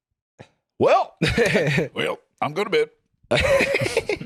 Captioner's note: both in Southern accents; laughs